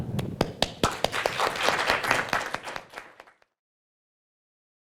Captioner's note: audience applauding